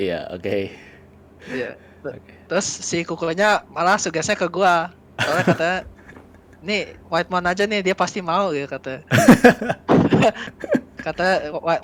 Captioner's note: laugh